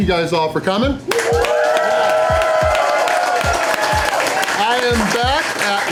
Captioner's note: crowd clapping and cheering